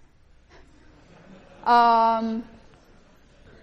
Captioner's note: class chuckling